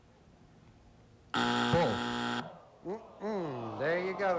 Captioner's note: buzzer